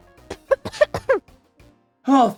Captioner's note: coughing